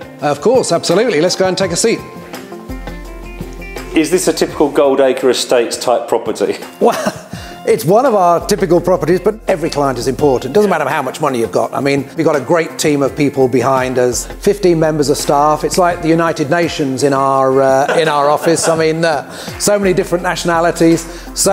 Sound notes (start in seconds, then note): 6.8 chuckles; 17.7 laughs